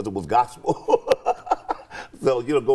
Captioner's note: laughing